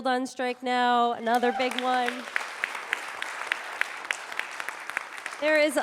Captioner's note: audience applauding